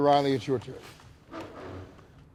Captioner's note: chair scraping